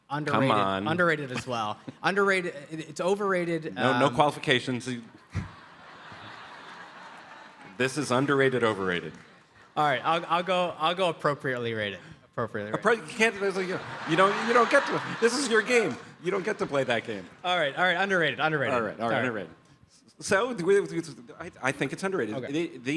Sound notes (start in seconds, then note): 5.1 audience laughs